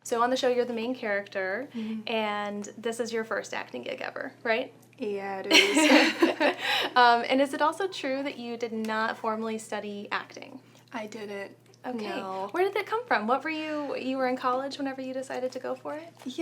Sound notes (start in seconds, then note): 5.5 laughs